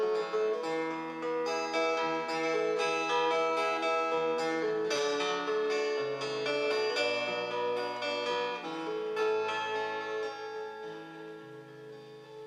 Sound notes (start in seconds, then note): none